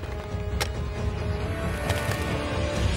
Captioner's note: Drawer opens